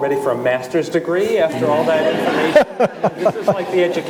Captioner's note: audience laughing